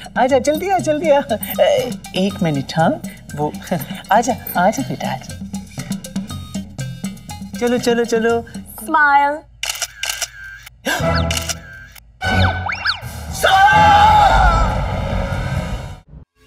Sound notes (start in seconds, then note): 9.6 Camera shutter clicks; 11.0 Gasps